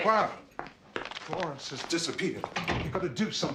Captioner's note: Langkah kaki